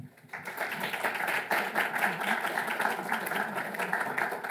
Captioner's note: applauding